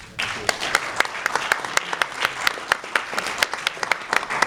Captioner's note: applause